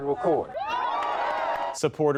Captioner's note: cheering